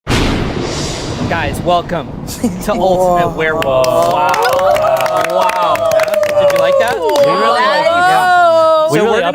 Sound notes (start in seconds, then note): 0.0 lightning cracks; 2.9 everyone cheers